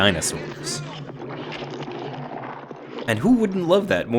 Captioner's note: dinosaurs growling